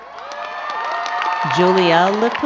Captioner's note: crowd cheering and clapping